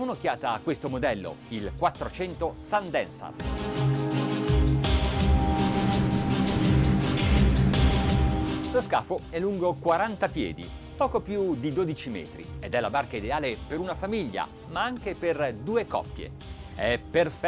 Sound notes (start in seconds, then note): 3.3 intense music; 8.8 man speaks in foreign language